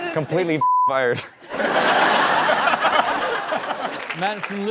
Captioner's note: beep; laughing; clapping